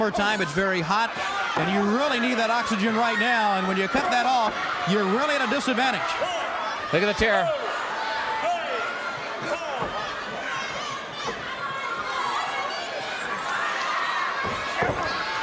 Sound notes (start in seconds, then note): 2.3 crowd cheering